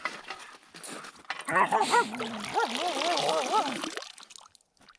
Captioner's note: Laika barking